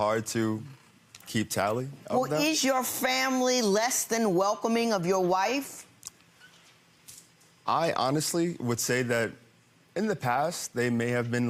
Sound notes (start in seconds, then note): none